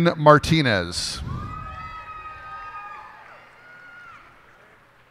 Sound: cheers and applause

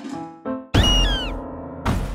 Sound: baby Bird squeaks

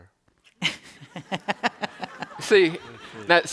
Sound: laughter

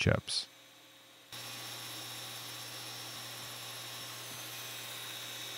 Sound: pantograph whirring

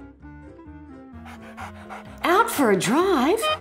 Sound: dog panting

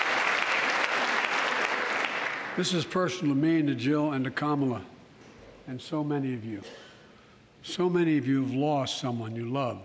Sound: applause

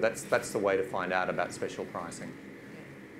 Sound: none

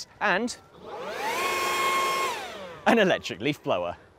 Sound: blower whirling

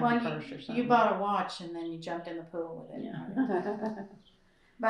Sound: laughter

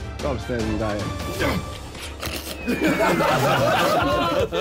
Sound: grunting; laughing

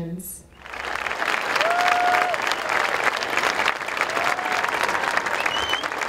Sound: clapping

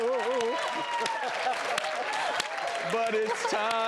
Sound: cheering

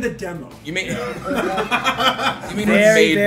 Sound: laugh

